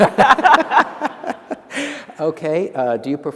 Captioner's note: laughter